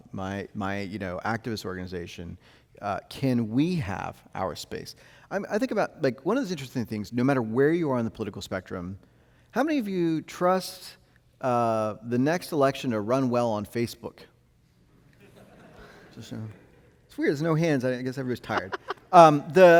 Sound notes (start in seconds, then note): 15.2 audience laughing; 18.4 host laughing; 18.5 laughing